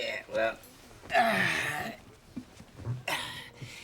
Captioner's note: sighs